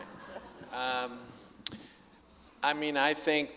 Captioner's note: audience laughing